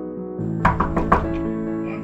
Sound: knocking

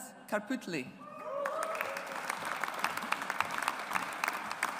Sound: audience applauds

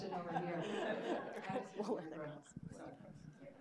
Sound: audience laughing

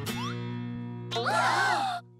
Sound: gasping

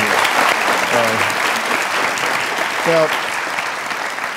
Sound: clapping

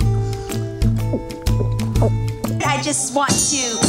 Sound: gulping

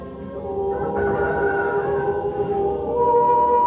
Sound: rooster crowing

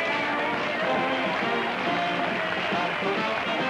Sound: applause

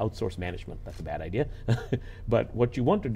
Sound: chuckles

